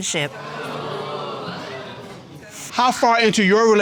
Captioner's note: audience exclaims